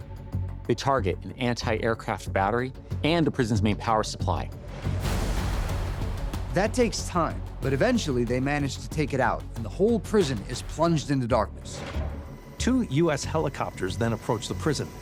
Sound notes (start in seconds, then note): 4.8 thunder crashes